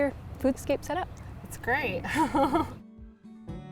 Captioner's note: chuckles